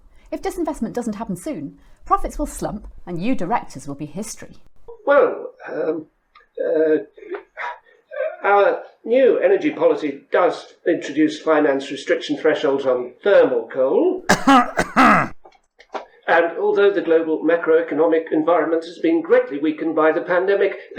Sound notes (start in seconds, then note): 14.2 cough